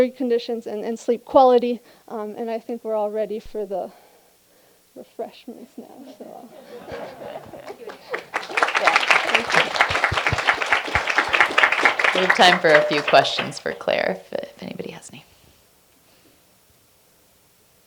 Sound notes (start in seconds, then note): 7.6 applause